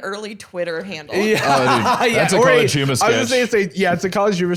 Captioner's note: laughs